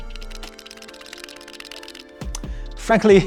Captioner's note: sound of the charging case rattling